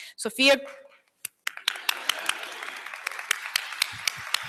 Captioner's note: applause